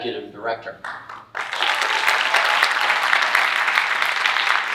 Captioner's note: audience applauding